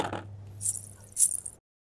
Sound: anklets sound

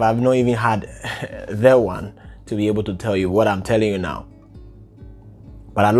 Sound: chuckles

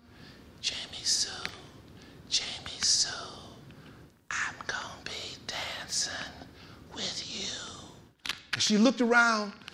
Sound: whispering

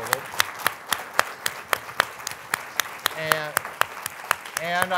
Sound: audience applauding

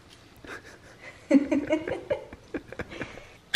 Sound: laughing

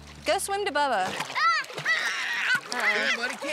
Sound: shouts

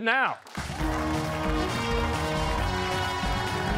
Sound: cheers and applause

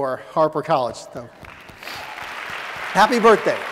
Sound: audience: Clapping

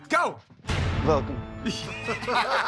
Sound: Transylvanian accent; laughter

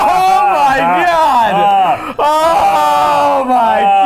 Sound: screaming

